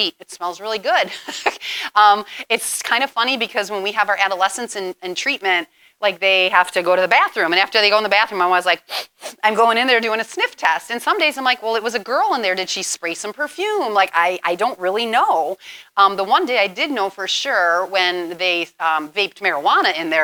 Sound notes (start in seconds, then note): 8.8 sniffs